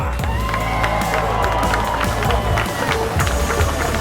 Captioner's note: cheering